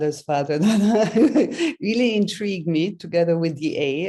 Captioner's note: laughs